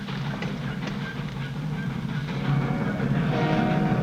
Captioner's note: squeaking on train tracks